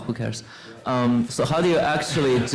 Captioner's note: laughter